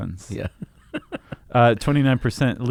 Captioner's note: laughs